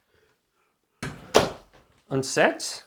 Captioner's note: door closes